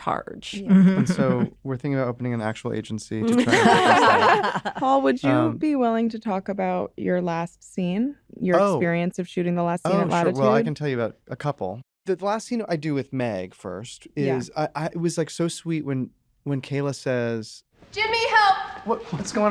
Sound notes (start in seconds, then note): 3.2 laughter